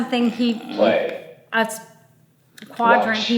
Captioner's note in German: Sprachgerät